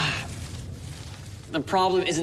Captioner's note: groans